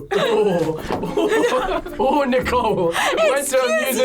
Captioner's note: group laughs